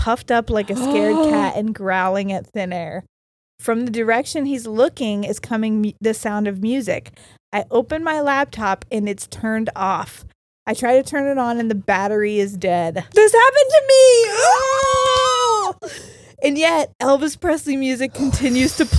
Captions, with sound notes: like a scared cat and growling at thin air. From the direction he's looking is coming the sound of music. I open my laptop, and it's turned off. I try to turn it on, and the battery is dead. - This happened to me! (both shrieking) - And yet, Elvis Presley music continues to play